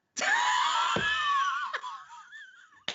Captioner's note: laughing